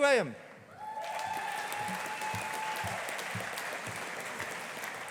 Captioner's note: audience applauding